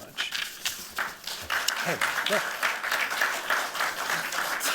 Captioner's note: applause